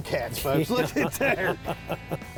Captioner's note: laughing